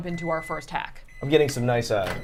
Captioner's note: microwave beeping